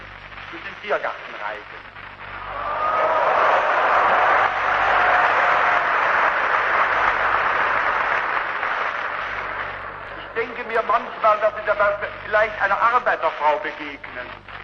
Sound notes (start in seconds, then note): 1.9 booing, Applause